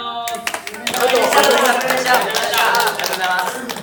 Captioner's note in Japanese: 拍手